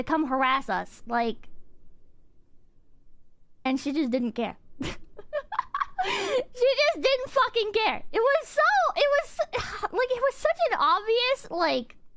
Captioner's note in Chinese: 苦笑